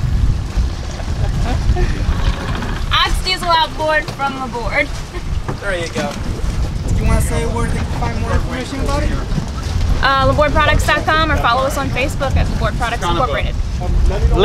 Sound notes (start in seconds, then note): 1.0 laughing; 5.2 laughing